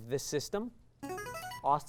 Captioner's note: signaling device tone